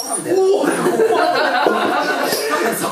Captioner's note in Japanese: 一同の笑い声